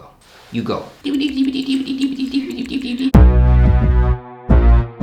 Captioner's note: clicking keyboard keys